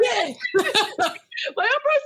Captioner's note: laughing